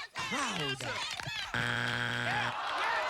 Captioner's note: buzzer